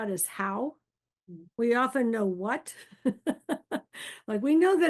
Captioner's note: chuckles